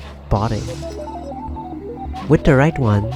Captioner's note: robot beep boop noise